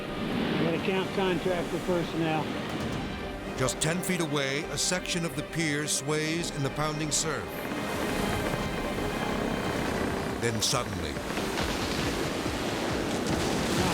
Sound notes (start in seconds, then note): 6.5 waves roaring; 7.8 pilings creaking; 11.5 pilings snapping